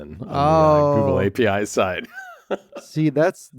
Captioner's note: laughs